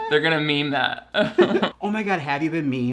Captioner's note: both laugh